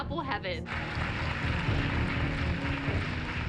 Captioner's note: applause